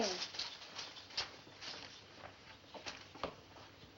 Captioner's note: imitates Whisking Sound